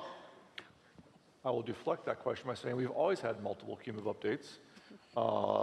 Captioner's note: laughing